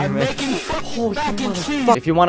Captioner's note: inhales; intense inhale